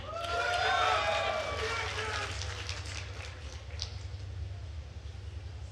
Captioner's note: attendees cheering and applauding